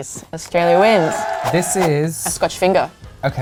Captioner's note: applause